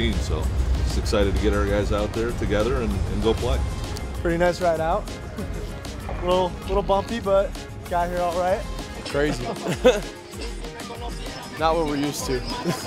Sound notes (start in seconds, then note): 8.7 laughing